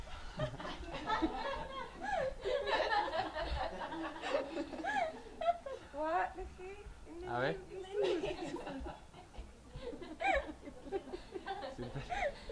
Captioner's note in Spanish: todos se ríen